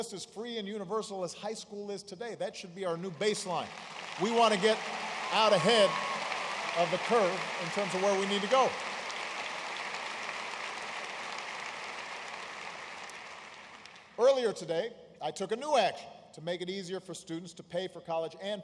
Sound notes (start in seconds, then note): 11.5 applause